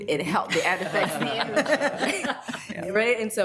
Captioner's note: laughs